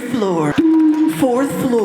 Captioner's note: beep